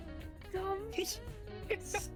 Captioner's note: mecha-giggle